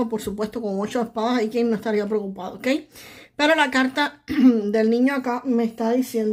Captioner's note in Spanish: carraspeo